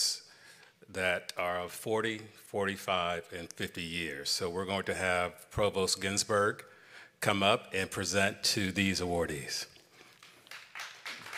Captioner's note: applause